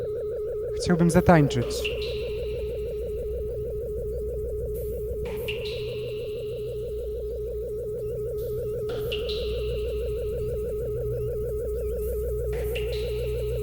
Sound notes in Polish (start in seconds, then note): 2.6 Elektroniczne odgłosy kapania; 2.6 Stałe, szybko oscylujące dudnienie